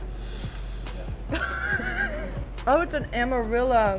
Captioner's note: sniffs and chuckles